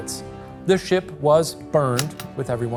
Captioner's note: projector clicking